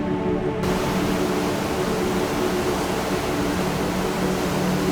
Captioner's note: water falling